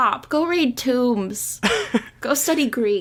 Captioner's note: laughs